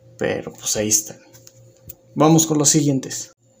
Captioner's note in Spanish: Silencio; Silencio